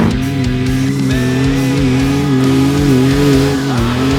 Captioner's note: engine revving